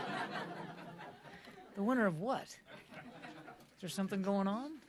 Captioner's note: laughter